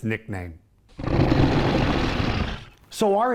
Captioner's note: dinosaur growls